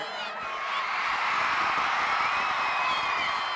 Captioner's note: audience cheering